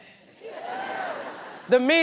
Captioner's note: audience cheers